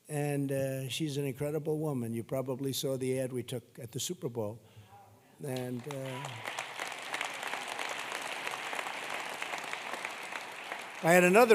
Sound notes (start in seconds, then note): 5.5 applause